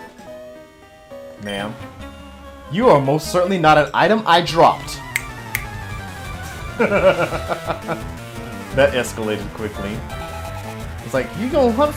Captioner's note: snap snap